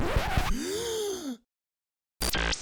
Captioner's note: gasp